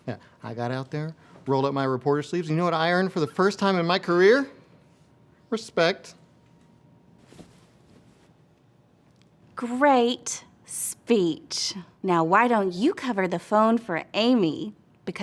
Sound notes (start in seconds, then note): none